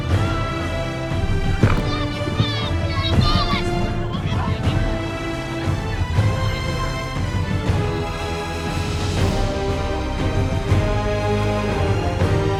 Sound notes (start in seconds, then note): 1.3 shouting